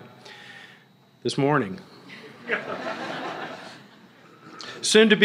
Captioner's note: laughter